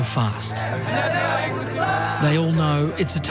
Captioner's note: all chant in korean